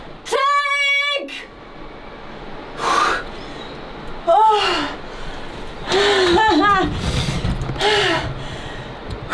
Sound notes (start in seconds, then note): 2.8 pants, sighs; 6.0 laughs, pants